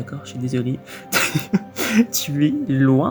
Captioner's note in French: haha